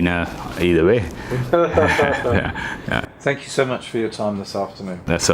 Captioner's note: laughs